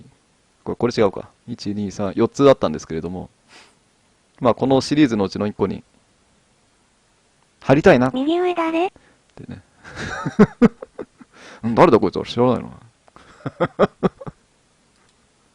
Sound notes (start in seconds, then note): 9.8 laughter